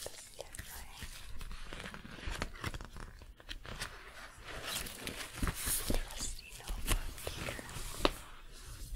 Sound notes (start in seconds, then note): 0.3 glove sounds, notebook shuffling; 8.7 glove sounds, pencil clicking, writing